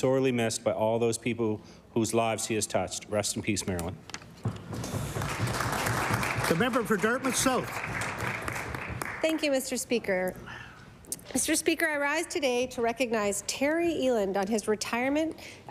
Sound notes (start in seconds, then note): 4.8 applause